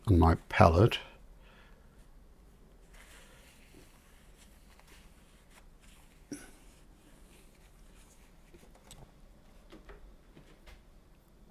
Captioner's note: silence